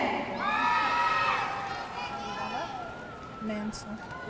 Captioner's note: audience cheering